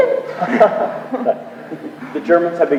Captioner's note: men laugh